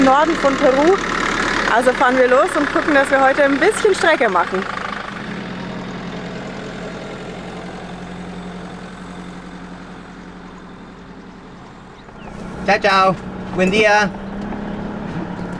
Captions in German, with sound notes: Norden von Peru. Also fahren wir los und gucken, dass wir heute ein bisschen Strecke machen. Ciao. Ciao. [auf Spanisch] Schönen Tag!